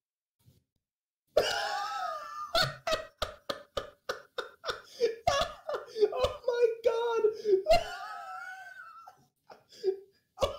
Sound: wheeze

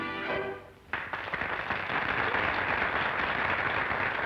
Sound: crowd applauding

